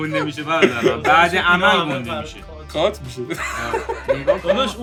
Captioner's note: laughing sarcastically